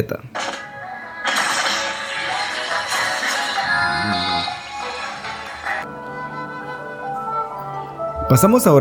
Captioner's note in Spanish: Sonido del videojuego